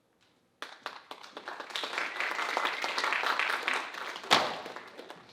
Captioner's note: audience applauding